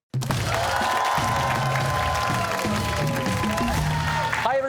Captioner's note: cheers and applause